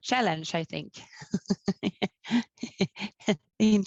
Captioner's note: laughing